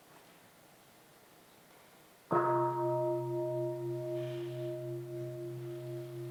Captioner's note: sounds of the gong